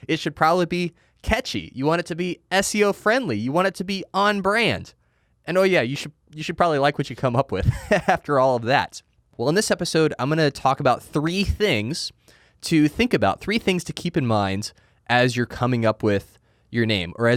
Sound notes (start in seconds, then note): 7.6 laughs